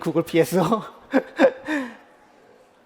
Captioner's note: laughs